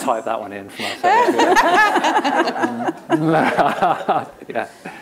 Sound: laughter

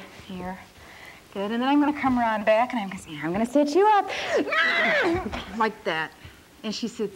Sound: heavy grunt

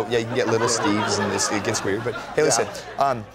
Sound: laughter

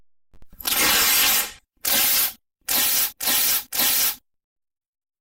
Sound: paper ripping

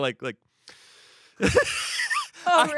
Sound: laughs

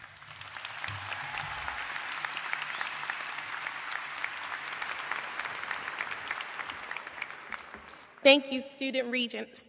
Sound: applause

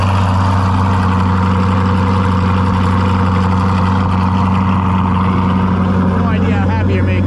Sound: car engine running

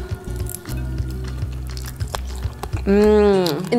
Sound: food crunching

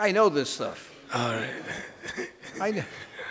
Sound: laughing

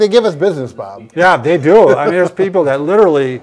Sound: laughs

